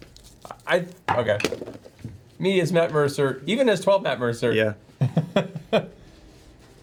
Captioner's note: laughs